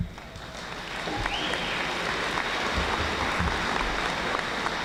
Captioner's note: audience applauding